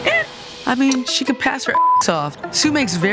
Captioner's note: beep